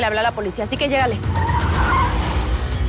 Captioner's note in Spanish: Chirrido de llantas